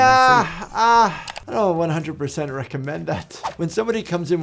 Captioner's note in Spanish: clic